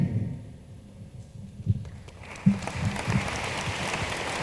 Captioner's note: room applauds